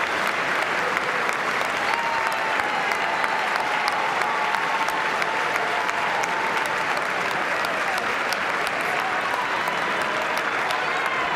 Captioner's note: applause